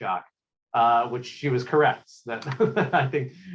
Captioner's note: laughs